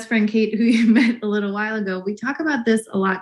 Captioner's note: laughs